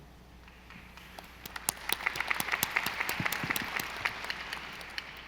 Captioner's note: audience applauding